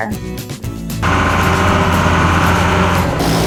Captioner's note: Road Roller Engine Sound; cement Truck Engine Sound